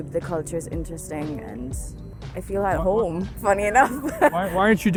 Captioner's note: chuckles